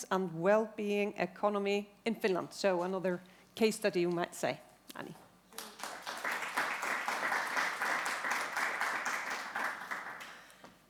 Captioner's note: applause